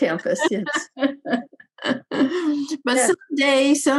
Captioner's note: Senator Pavley laughing